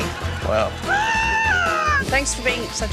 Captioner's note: screams